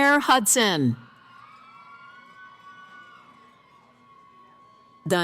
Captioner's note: cheering